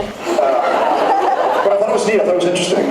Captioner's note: laughs